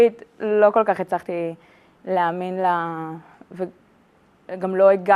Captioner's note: speaking in Hebrew